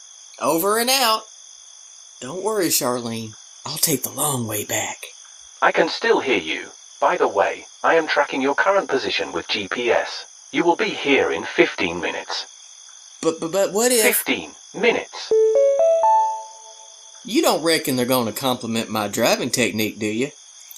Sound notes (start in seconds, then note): 2.1 lowered voice; 13.0 stammers; 15.3 notification chime